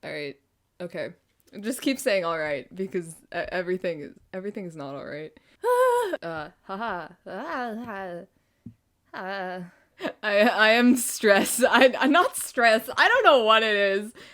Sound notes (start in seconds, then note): 5.6 stress noises